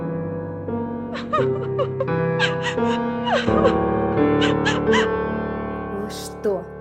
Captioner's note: crying